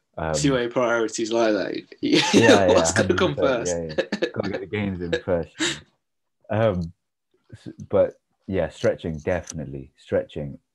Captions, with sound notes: See where your priorites lie there. *laughter* What's got to come first. Yeah got to get the gains in first. Um, but yeah, stretching, definitely stretching.